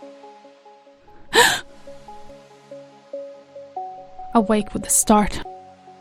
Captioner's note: gasps